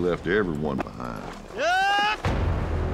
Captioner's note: cowboy yells